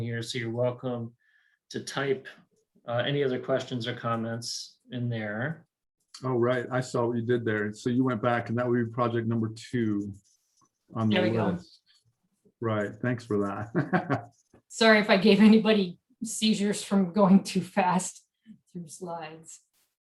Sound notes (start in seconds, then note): 13.6 chuckles